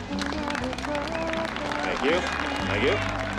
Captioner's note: crowd applauding